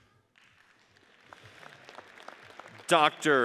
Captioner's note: audience applauds